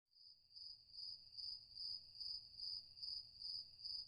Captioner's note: crickets chirping